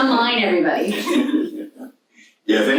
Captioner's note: audience laughs